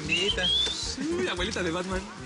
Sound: Silbidos

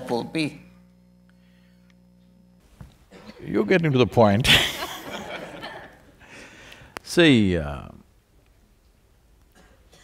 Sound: few laugh

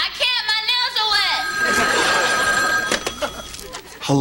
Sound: ring

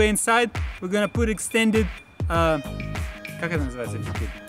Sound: speaks in Russian

